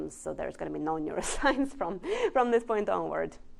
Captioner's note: laughs